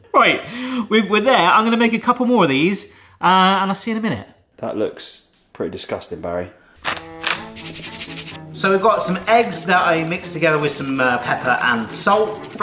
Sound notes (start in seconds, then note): 6.9 grinder clicks; 7.0 goofy music; 7.4 salt rattles